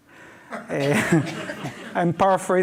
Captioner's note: audience laughs